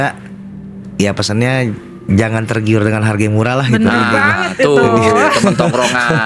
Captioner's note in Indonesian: tertawa